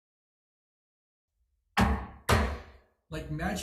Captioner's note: gavel hammers